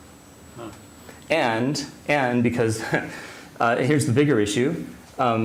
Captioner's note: chuckles